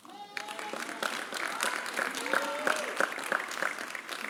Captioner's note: applause